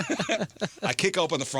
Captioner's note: laughing